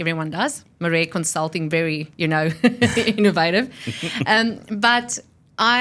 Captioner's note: laughs